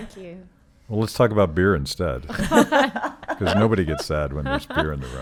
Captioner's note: laughing